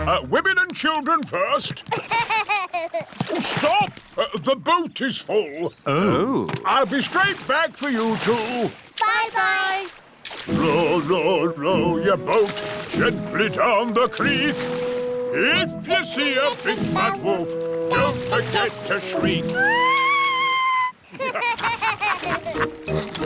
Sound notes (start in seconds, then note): 1.9 laughs; 19.5 shrieks; 21.0 laughter